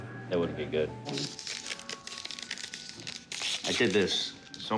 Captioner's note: crinkling paper